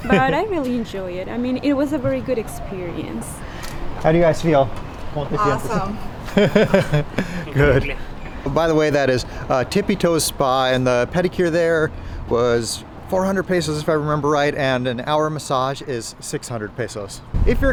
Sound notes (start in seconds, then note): 5.4 laughs